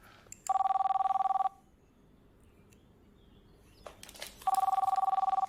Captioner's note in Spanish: Suena el teléfono